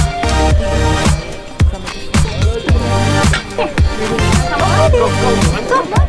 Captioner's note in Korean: 뚜렷하지 않은 대화소리